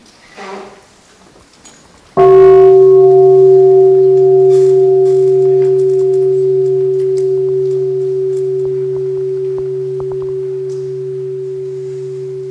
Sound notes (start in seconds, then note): 2.2 sound of the bell